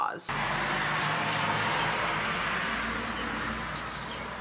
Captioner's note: sound of car driving past loudly